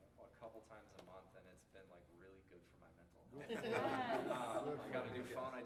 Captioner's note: laughter